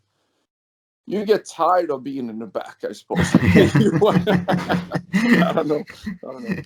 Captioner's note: laughs